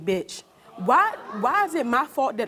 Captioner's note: audience gasping